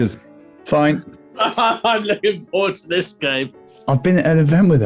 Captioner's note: laughing